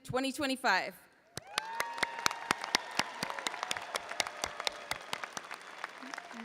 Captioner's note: audience applauding and cheering